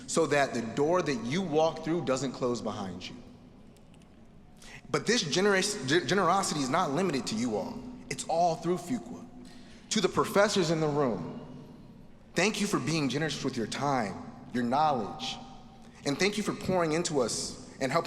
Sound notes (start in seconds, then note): none